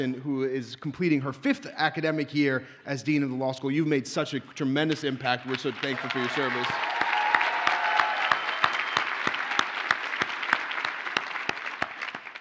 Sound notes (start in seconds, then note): 5.4 audience cheers and applauds